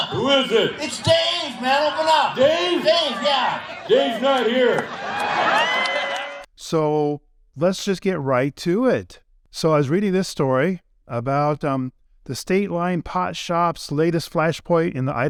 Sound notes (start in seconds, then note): 5.6 crowd cheering